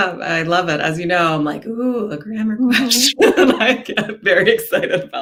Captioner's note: laughs